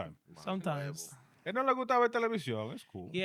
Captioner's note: speaking In Foreign Language